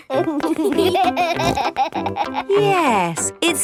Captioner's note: laughing